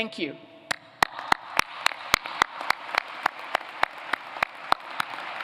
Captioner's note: applause